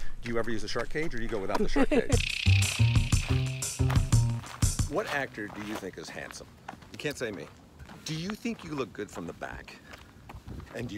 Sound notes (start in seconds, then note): 1.6 laughs; 2.0 jungle music